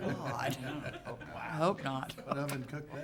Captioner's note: audience chuckling